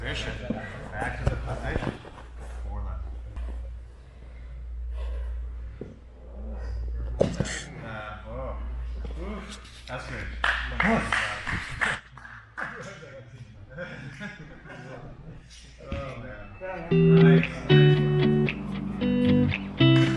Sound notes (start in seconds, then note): 10.4 spectator applauds; 12.4 spectators laugh; 16.9 gentle music